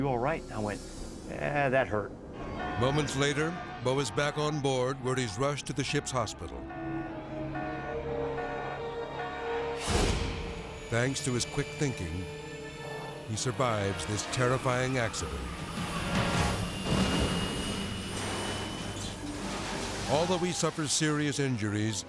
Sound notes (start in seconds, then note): 6.3 tense music; 7.6 object beeping; 9.4 graphics whooshing; 15.4 aircraft engine whooshing; 16.6 aircraft booms